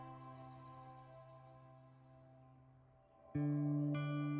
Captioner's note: birds chirp